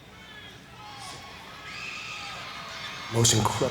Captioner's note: crowd cheering; people screaming